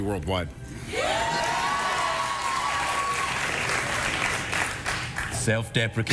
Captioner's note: cheers